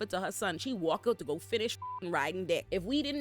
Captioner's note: beep